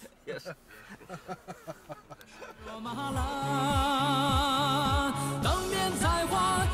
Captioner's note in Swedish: Skratt